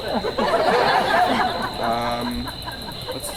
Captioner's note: audience laughs